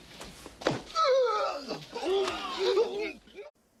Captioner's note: man grunts in pain